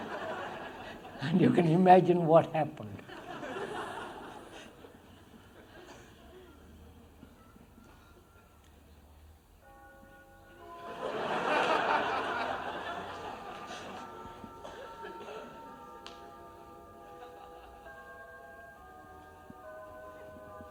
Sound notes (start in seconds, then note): 0.0 laughter; 2.4 sound of bells; 3.0 laughter